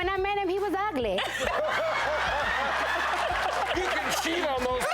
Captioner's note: host and audience laughing